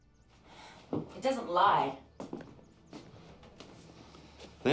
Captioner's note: sighs